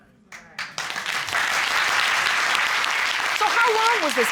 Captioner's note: audience applauding